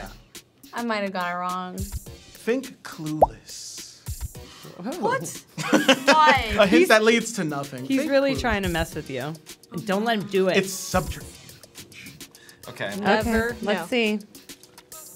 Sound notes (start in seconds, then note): 5.5 laughing